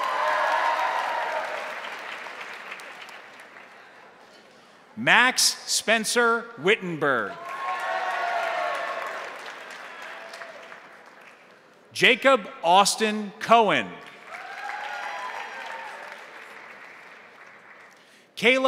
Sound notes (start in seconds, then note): 0.0 crowd cheering; 0.0 crowd applauding; 7.2 crowd cheering; 7.3 crowd applauding; 14.0 crowd applauding; 14.0 crowd cheering